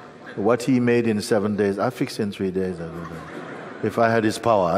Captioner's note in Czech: smích